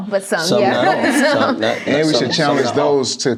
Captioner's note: laughs